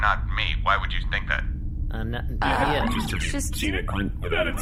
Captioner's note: collective stammering